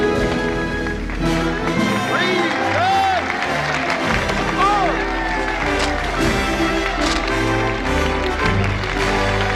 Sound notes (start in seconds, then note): 3.2 Aplausos